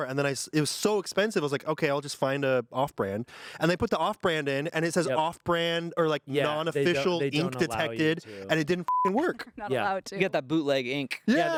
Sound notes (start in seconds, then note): 8.8 beep